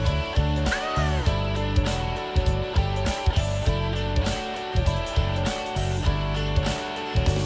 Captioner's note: laughing